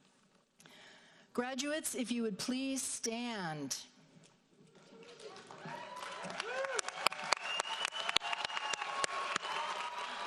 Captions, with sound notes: Graduates, if you would please stand. (audience applauds)